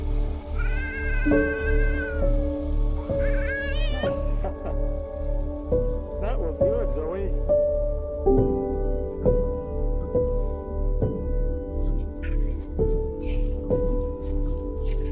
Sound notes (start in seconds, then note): 0.2 dramatic piano music; 4.4 playful laughter